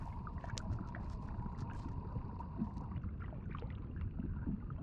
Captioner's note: water bubbling